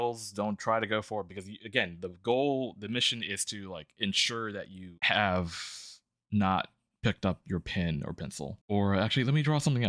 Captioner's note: stutters